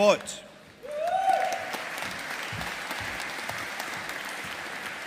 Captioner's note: audience applauding